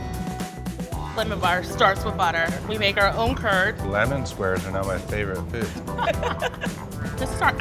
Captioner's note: laughing